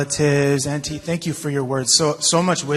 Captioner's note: speaking in native language